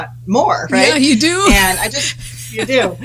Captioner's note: laughs